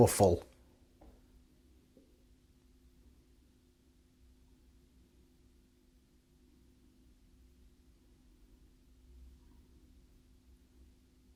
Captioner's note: silence